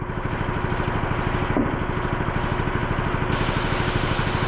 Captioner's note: engine rumbling